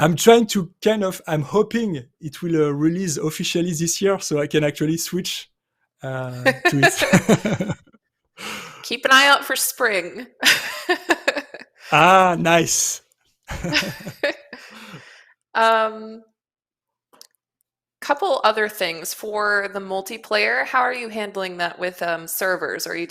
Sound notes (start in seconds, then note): 6.4 laughter; 10.4 laughs; 13.5 chuckling